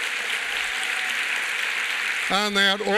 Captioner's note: applause